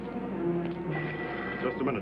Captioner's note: phone ringing